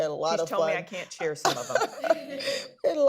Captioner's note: laughter